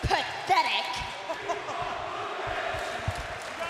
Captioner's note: crowd cheering